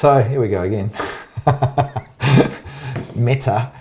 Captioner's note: laughing